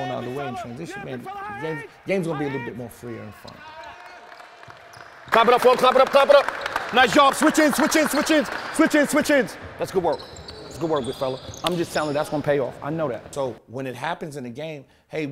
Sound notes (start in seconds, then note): 6.2 team members clapping